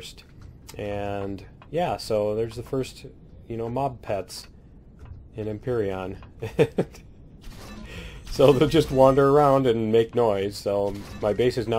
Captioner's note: laughs